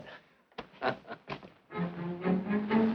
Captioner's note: chuckling